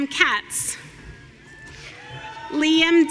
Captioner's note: audience cheering